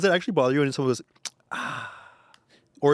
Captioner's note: sighs